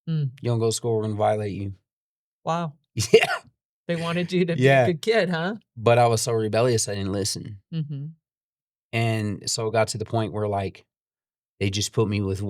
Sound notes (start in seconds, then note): 3.0 laughs